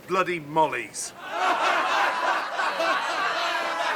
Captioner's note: laughter